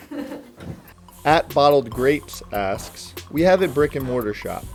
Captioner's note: voiceover